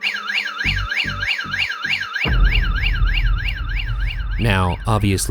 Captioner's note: motion detector beeping